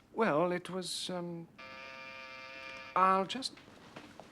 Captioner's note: bel pintu berbunyi